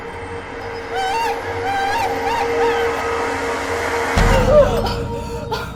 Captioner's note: Christa screaming